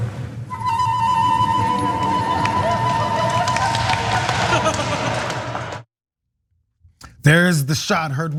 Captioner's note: applause